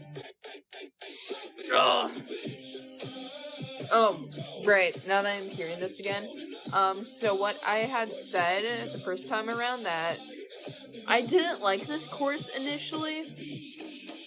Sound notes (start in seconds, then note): 1.7 disgusted groan